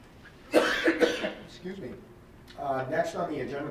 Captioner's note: coughs